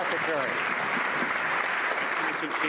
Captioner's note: some Applause